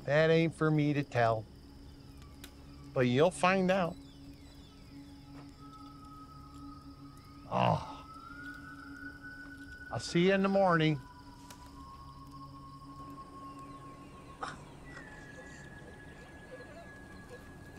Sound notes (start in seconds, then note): 4.5 ethereal music playing; 7.5 Sam groans